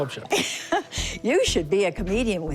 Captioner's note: laughs